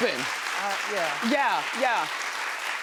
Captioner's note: audience applauding